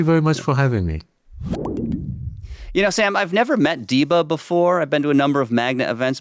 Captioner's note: logo booming